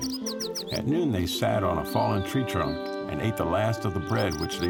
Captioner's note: none